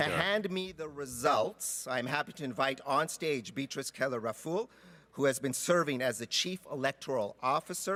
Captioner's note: speaking French